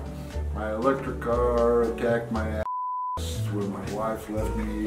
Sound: beep

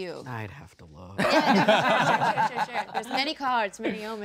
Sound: laughing

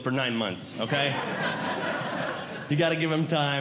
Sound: audience Laughing

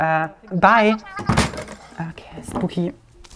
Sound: crashing sound

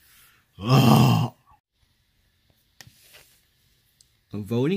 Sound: growls

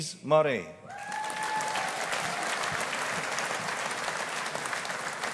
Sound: audience applauding

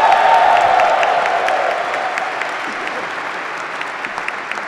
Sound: applause

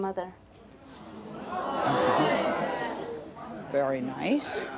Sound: audience clamors

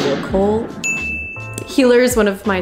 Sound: bell ringing

